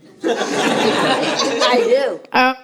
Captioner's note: laughter